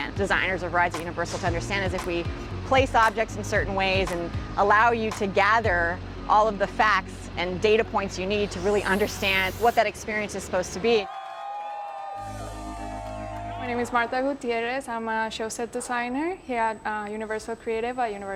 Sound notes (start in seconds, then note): 11.0 crowd cheering; 12.2 upbeat music